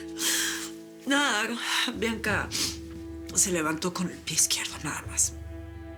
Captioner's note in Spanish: Sollozos